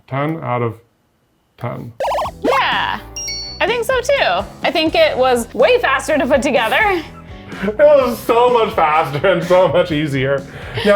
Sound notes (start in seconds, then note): 2.0 graphic buzzing; 3.1 graphic ding